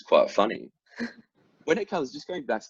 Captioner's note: laughs